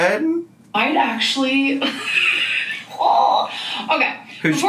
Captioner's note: laughs